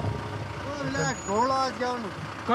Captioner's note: foreign language spoken